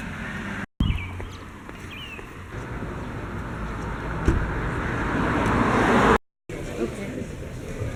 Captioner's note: road sounds; birds tweeting